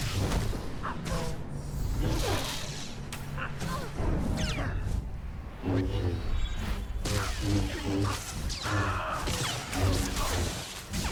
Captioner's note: gunshots